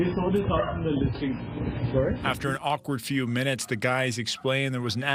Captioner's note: barking